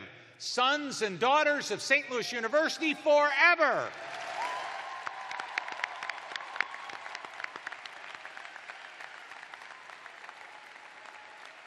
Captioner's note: cheers and applause